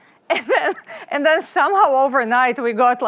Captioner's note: laughs